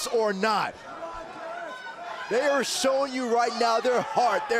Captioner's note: crowd chatter